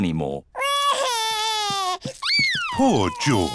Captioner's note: crying